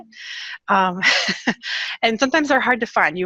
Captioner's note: laughs